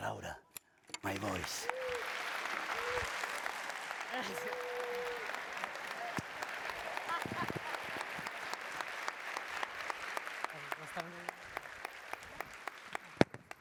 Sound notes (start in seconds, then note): 0.1 speaking spanish; 3.3 applause